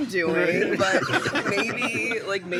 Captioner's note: laughter